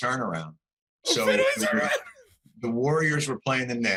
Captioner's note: laughing